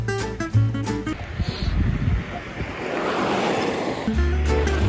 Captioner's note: sniff